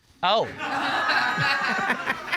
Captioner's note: audience laughing; laughs